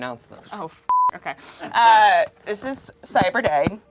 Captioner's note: beep